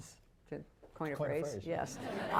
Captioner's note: laughter